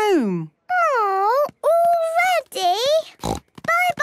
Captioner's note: snort